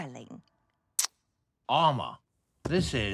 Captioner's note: smooches